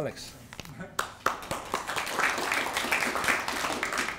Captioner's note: applause